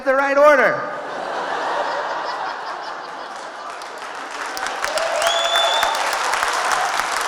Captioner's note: audience laughing; audience cheering